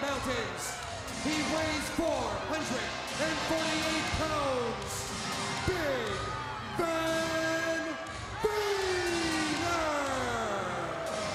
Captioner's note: crowd chatter